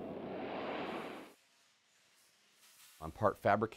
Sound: subscale aircraft taking off

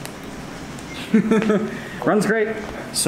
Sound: laughs

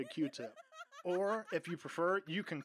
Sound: woman laughing

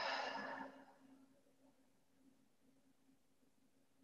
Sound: exhales

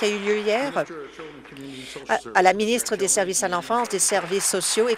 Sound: applause

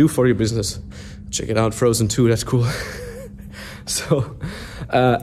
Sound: chuckling

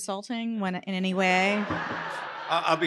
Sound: laughter

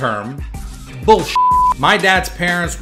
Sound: beep

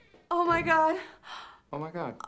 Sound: gasps

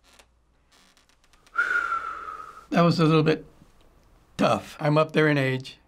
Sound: whistles softly

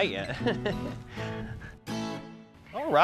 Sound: laughter

